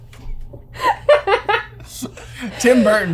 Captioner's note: laughter